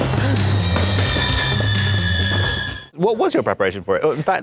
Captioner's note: tires screeching